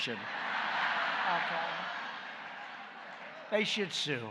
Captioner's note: laughter